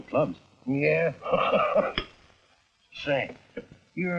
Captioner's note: laughing